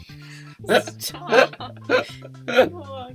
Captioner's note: laughter